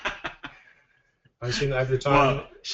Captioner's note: laughing